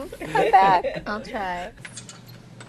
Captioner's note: laughing